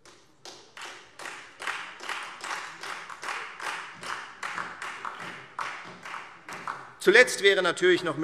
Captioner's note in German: Beifall Freie Demokraten und vereinzelt SPD